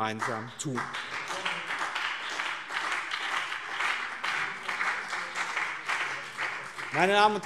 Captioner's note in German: Beifall BÜNDNIS 90/DIE GRÜNEN und CDU